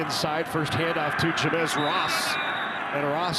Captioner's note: referee blows whistle